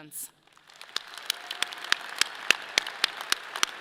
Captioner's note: audience cheers; audience applauds